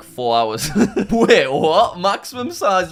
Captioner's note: laughing